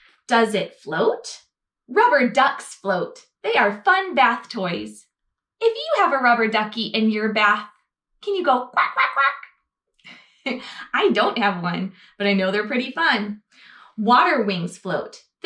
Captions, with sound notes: "Does it float? Rubber ducks float. They are fun bath toys." If you have a rubber ducky in your bath, can you go (mimics duck quack)? I don't have one, but I know they're pretty fun. "Water wings float.